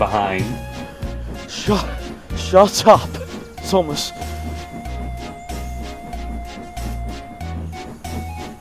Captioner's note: gasp; wheeze